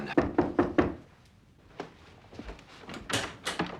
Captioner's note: knocking